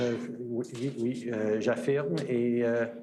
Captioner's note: speaking French